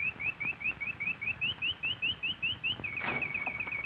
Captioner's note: bird chirping